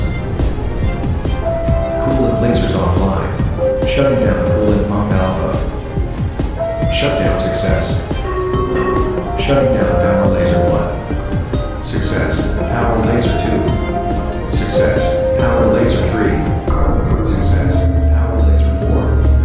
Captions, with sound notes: Coolant lasers offline. Shutting down coolant pump alpha. Shutdown success. *Announcement Chime* ASAS: Shutting down power laser 1. Success. Power laser 2. Success. Power laser 3. Success. Power laser 4.